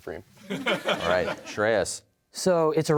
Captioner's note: laughter